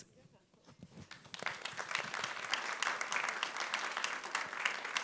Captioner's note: audience claps